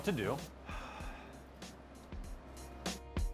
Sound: sighs; light upbeat music

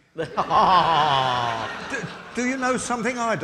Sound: audience laughing

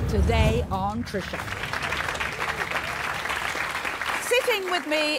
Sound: applauding

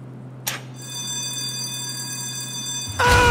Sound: alarm

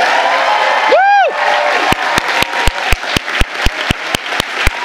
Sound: audience applauding

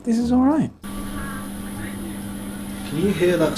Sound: hissing

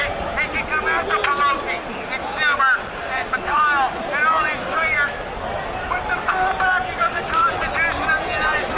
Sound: crowd noise

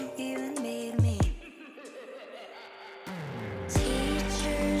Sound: evil laugh

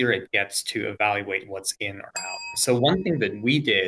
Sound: bell dings

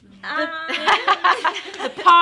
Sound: girls laughing

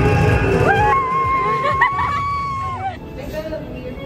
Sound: screaming

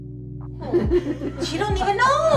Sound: group laughs

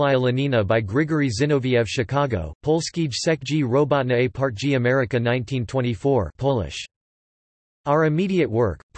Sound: Polish

